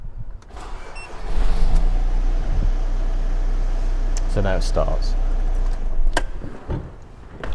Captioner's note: car starts